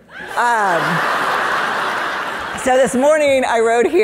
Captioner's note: audience laughing